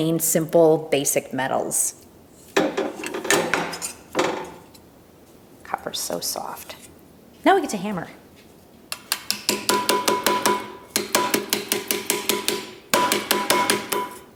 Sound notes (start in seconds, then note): 2.6 equipment clanging; 8.9 hammer tapping